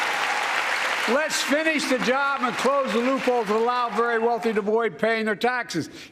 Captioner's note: applause